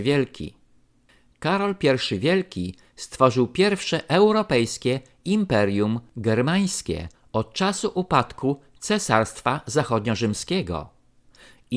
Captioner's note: German